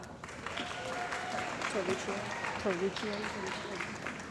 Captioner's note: cheering & Applause